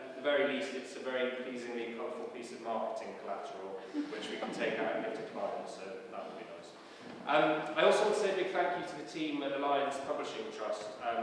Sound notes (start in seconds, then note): 7.0 laughs